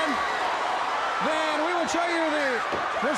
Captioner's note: crowd cheering